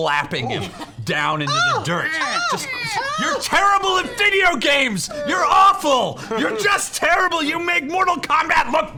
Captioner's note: yelling